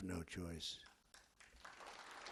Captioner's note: applause